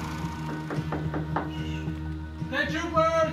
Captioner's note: knocking